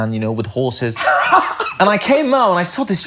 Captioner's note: laughing